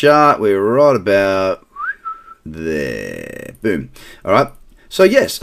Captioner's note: whistling